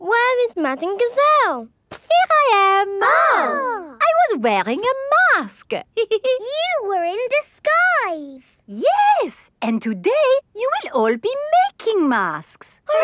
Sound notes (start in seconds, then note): 2.4 exclaiming; 5.9 giggles